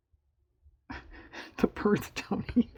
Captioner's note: laughs